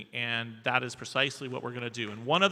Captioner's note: none